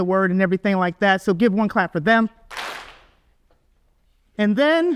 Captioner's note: audience claps